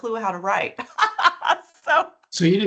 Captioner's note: laughing